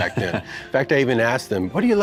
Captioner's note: Racer laughs